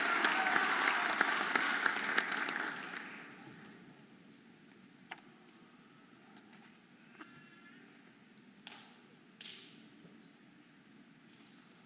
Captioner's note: audience applauding and cheering